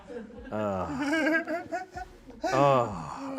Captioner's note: laughs